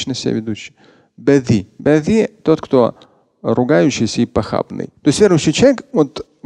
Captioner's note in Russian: Говорит на арабском